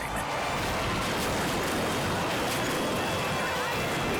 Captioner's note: car crashing